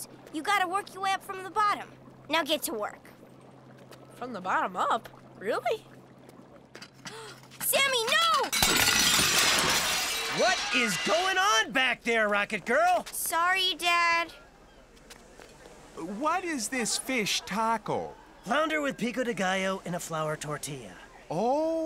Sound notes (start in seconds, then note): 8.5 big crash